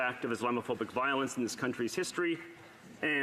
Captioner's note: speaking French